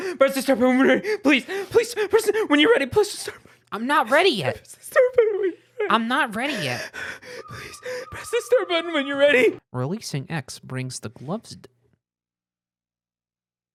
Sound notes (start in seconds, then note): 4.9 softly weeping; 6.5 heavy breathing